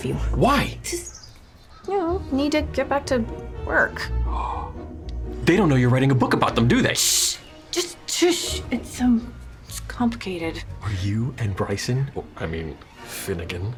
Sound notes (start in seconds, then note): 4.2 gasps